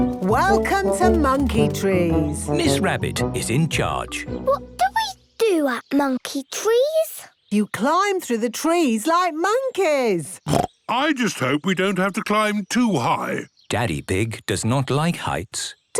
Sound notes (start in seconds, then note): 10.4 snorts